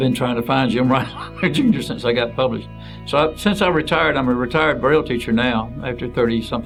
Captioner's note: chuckles